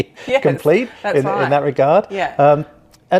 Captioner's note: laughs